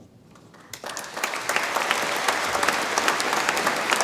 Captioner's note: audience applauds